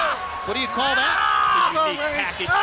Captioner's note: crowd chatter